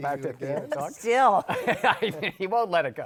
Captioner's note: laughs